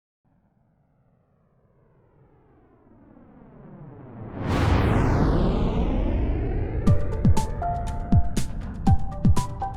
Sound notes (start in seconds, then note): 3.2 rocket engine roaring; 6.8 upbeat music